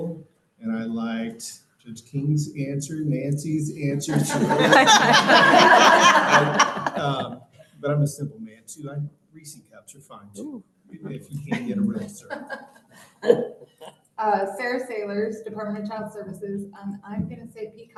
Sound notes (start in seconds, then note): 4.0 laughter